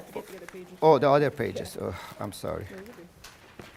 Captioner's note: sigh